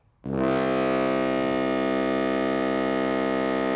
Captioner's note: horn blaring